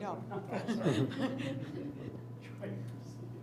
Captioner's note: laughing